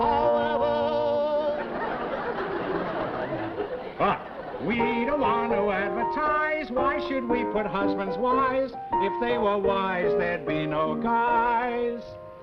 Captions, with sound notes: However-- [LAUGHTER] But we don't want to advertise, why should we put husbands, wives, if they were wise, there'd be no guys--